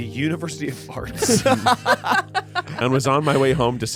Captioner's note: everyone laughs